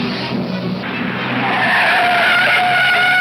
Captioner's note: tires squealing